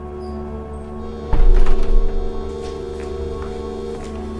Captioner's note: door closing and footsteps